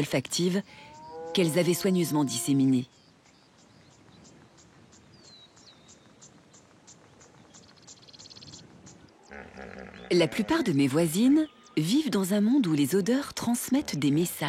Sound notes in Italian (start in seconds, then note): 6.7 cinguettii